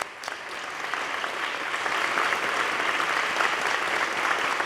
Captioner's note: applause